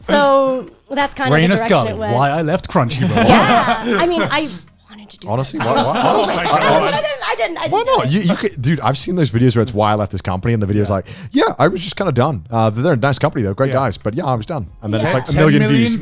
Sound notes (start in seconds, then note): 5.5 all laughing